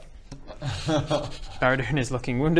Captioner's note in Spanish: risa nerviosa